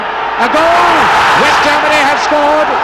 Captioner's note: crowd roaring